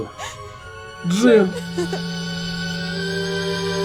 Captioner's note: sobs